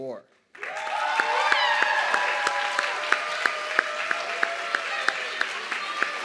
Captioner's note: audience clapping and cheering